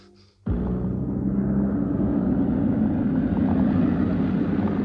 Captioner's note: motor buzzing